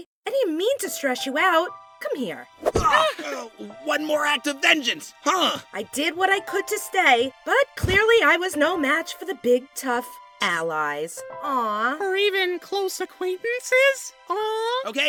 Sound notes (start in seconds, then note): 2.7 balloon chuckles; 2.8 nickel groans